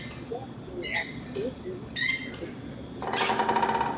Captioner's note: machine creaking